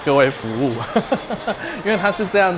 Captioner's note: laughs